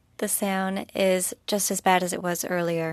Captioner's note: speaking FRENCH